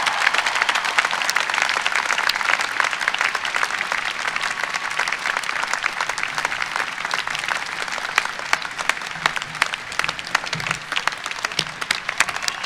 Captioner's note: applause